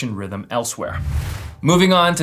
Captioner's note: soft whoosh